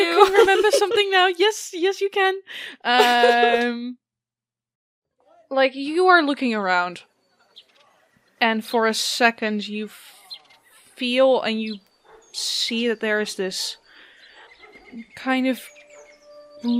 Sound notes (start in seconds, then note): 2.9 soft birdsong and outdoor ambience begins